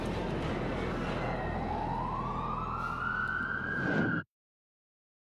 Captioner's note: siren wailing